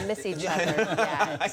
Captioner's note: laughter